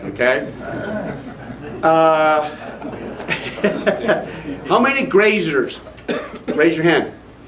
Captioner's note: haha